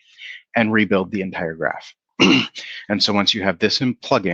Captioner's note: clears throat